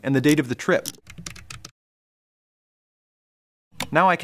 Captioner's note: typing; click